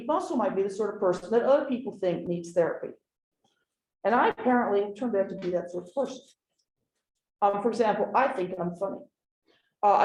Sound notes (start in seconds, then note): none